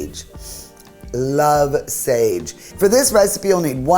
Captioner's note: sniffs